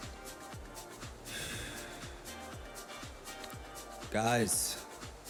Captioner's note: Roy sighing